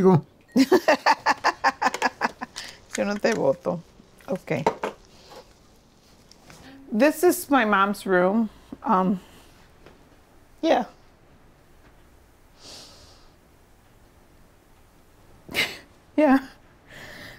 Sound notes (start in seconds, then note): 3.5 Spanish; 10.1 sniffs